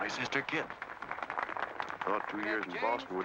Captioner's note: crowd applause